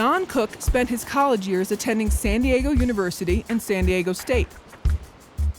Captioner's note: ocean waves